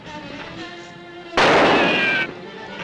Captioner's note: gunshot